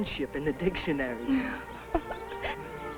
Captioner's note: woman laughs; gentle music